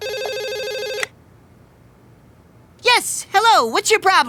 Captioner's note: phone ringing